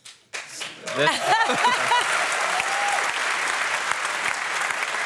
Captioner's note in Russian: публика аплодирует